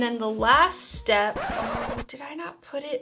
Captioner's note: record scratch